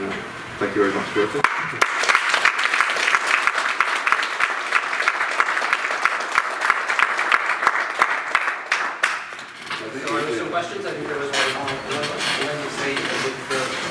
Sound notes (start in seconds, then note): 2.0 clapping